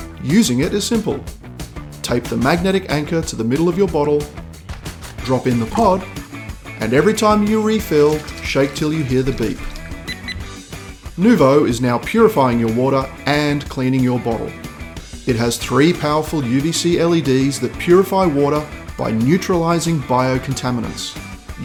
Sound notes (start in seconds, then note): 9.9 beep beep